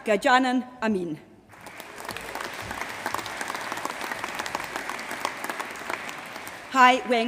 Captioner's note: applause